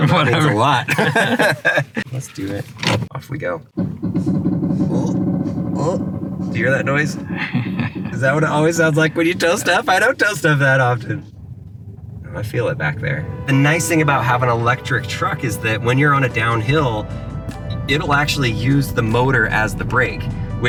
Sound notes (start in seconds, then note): 0.0 laughs; 4.2 creaking noises; 7.1 laughs